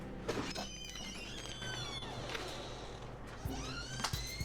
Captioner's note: door creaking; playful music